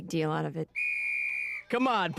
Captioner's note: whistle blowing